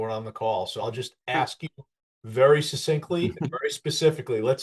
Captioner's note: laughs